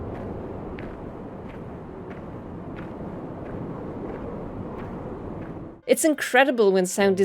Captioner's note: sounds of walking